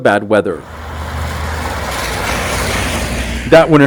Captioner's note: car engine revving